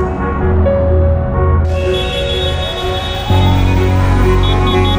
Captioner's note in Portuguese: carros buzinando